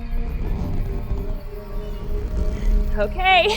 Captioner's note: rope straining